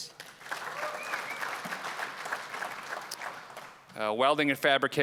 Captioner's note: applause